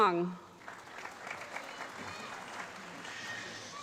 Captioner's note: applause